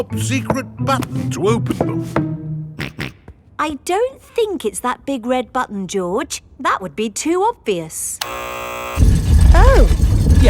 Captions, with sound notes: top secret button to open them. (SNORTS) I don't think it's that big red button, George. That would be too obvious. -(BUZZER SOUNDS) -Oh.